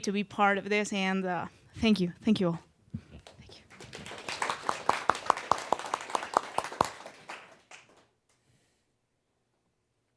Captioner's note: applause